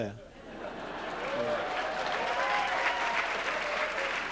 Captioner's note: laughter; applause